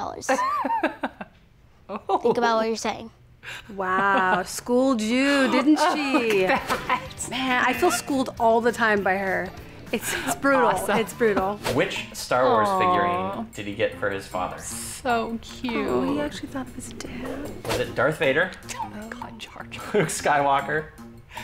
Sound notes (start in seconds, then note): 0.3 laughs; 5.2 laughs